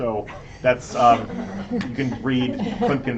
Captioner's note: laughter